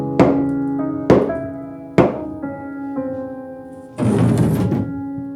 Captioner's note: somber piano music; hammer banging